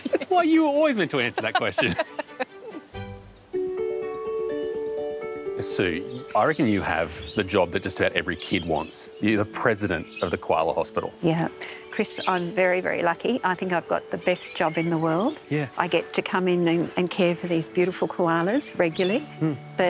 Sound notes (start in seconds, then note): 1.0 both laughing